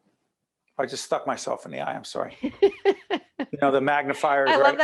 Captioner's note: laughing